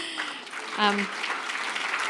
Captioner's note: applause